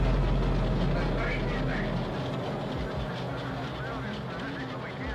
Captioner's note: spaceship whirring